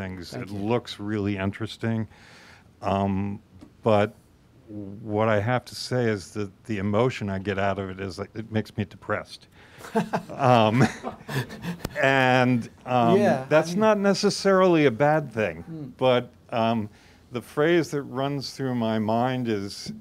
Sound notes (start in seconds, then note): 9.8 laughs